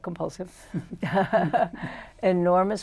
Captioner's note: laughter